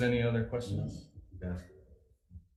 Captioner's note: members In Unison